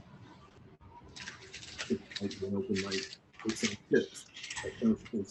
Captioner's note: microphone rustling